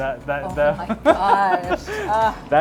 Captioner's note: laughs